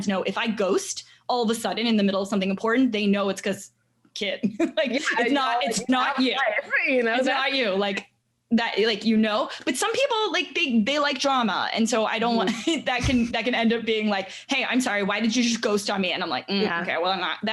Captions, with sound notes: know if I ghost all of a sudden in the middle of something important, they know it's 'cause kid. (laughing) Like it's not you. Its not you, like, you know. But some people like, they like drama. And so I don't wanna (chuckles) that can end up being like, "Hey, I'm sorry, why did you just ghost on me?" And I'm like, hmm, okay, well I'm not,